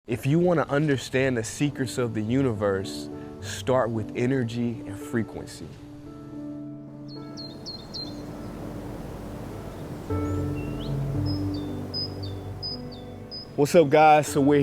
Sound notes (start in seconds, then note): 5.8 slow piano music; 7.0 birds chirping